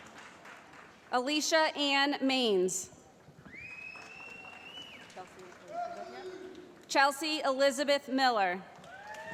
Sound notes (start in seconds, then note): 3.5 applause